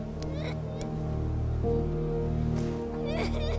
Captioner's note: Meg cries